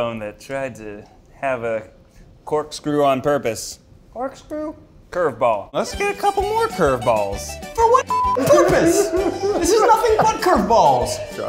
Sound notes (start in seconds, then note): 8.0 beeps; 8.4 laughing